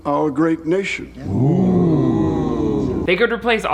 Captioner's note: parliament gasps